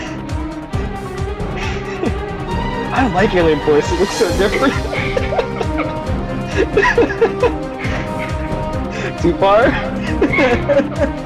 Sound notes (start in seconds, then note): 1.6 laughter; 9.7 laughs